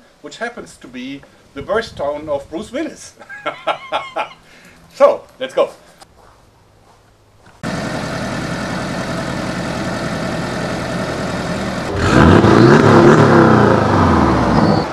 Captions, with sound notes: which happens to be the birth town of Bruce Willis! *Laughter* So, let's go! *Sound of running engine* *Engine revving noises*